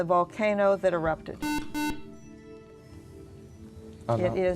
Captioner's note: beeping